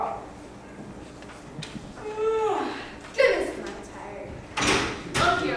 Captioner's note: yawns again